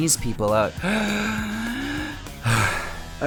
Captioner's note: deep breath in; sigh